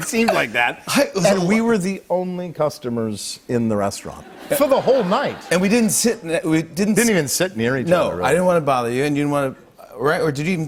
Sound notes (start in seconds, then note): 2.9 light laughter